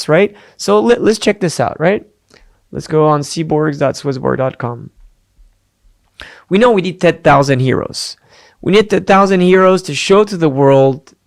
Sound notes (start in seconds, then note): none